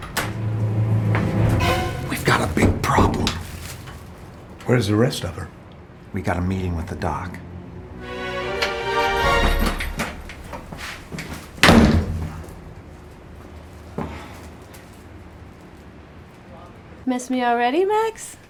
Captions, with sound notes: (foreboding music) - We've got a big problem. - Where is the rest of her? We got a meeting with the doc. (tense music) (door slams) - Miss me already, Max?